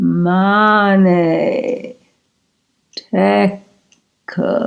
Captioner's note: speaking in Latin